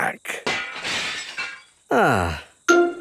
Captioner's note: glass shatters